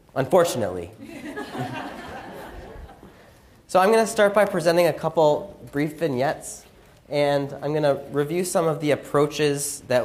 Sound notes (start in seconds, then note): 1.0 audience laughs